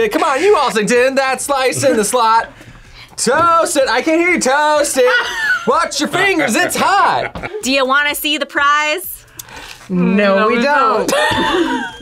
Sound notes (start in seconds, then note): 4.9 laughs; 11.0 laughs